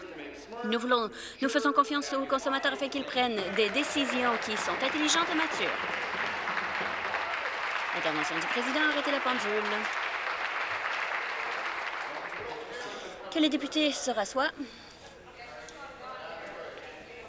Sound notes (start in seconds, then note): 7.0 applause